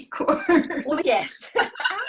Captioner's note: both laugh